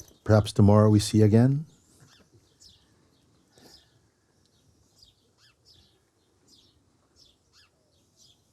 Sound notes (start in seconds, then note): 3.7 silence